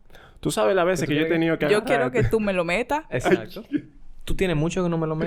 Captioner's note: laughs